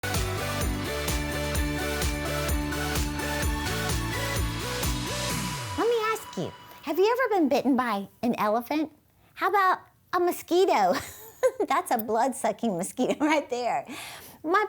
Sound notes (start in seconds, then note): 0.0 upbeat music; 11.0 chuckles